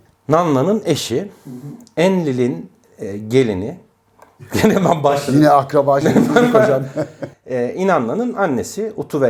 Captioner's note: laughter!